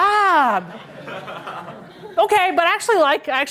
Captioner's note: laughter